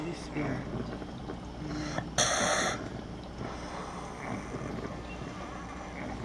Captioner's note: exhales, Gasps